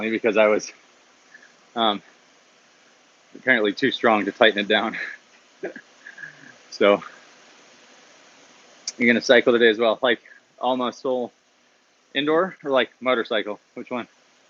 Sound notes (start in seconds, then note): 4.8 laughs